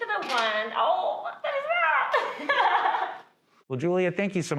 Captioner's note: laughs